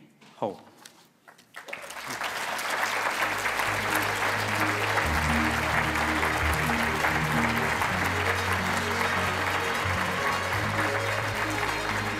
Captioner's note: applause